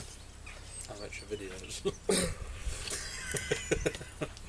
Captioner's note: he laughs